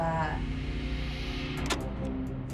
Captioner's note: clicking